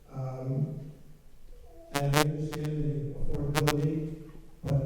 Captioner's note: participant murmuring